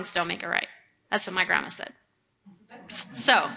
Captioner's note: audience laughing